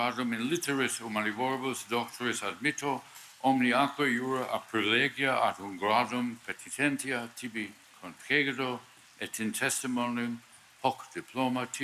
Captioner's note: speaking Latin